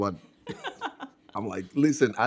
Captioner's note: laughing